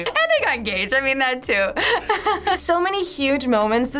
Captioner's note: laughs